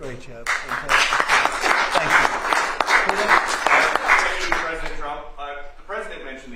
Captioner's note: applause